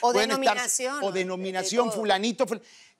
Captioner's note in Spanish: none